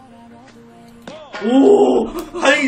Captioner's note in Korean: 클릭